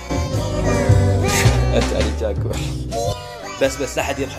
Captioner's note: laugh